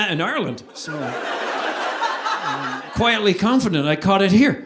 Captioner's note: audience laughing